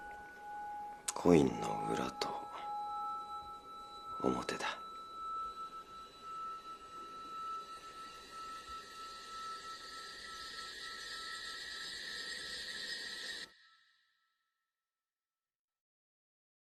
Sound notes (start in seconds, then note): 5.5 eerie reverb rises; 13.5 silence